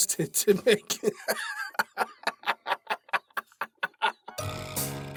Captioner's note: laughing